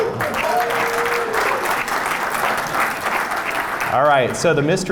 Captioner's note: applause and cheering